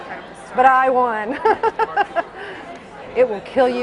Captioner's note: laughs